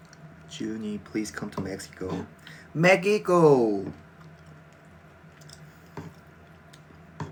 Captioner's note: eating sounds